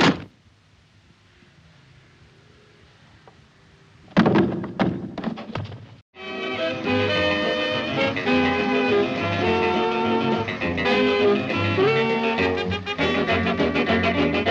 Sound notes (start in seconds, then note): 0.0 shovel bangs; 4.1 body thumps; 6.2 upbeat jazz music